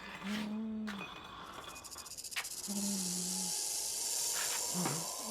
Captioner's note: scraping metal; snake rattling